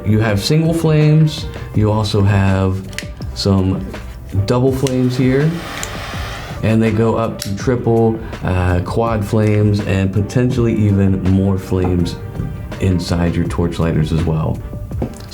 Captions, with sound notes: you have single flames, you also have some double flames here, (lighter hissing) and they go up to triple, quad flames, and potentially even more flames inside your torch lighters as well.